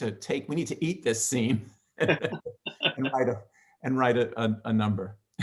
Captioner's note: both laughing